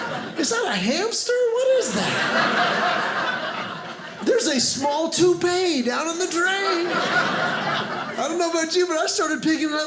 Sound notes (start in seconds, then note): 1.7 audience laughing; 6.4 audience laughing